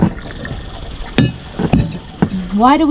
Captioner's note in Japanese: アカリスの鳴き声